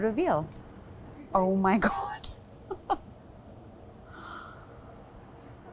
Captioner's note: chuckles